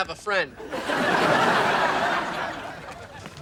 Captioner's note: audience laughing